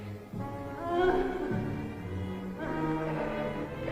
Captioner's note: Natalie moaning